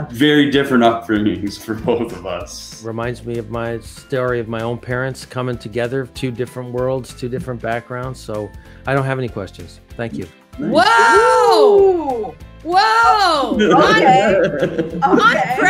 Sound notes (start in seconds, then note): 13.5 laughs